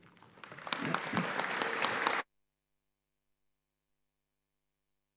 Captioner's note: audience applauds